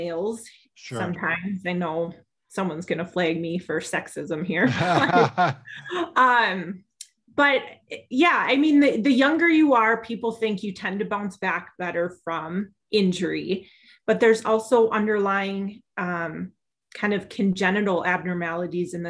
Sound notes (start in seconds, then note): 4.6 laughing